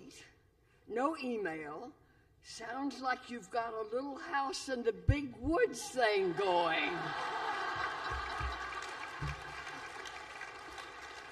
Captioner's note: laughter